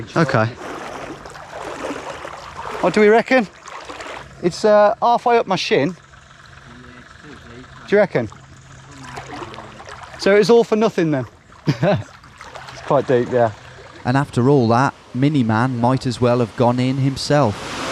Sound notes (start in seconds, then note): 11.6 laughs